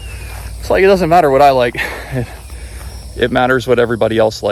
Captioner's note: chuckles